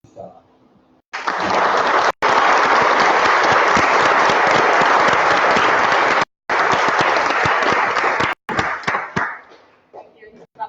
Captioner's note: applause